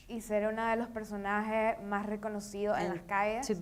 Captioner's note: speaking in foreign language